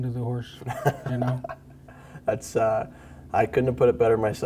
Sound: laughs

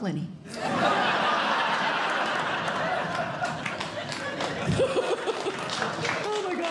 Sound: audience Laughing

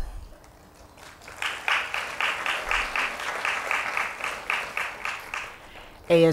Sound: applause

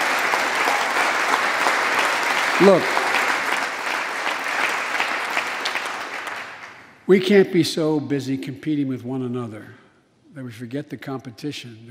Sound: applause

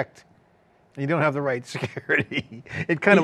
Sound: laughs

